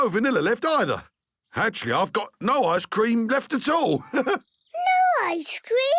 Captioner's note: chuckles